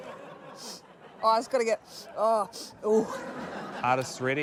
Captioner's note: laughter; sniffs; laughter